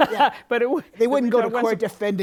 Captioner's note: laughs